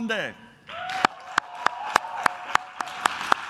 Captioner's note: claps